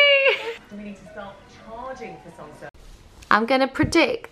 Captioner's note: background TV